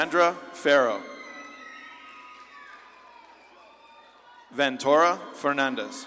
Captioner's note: audience claps and cheers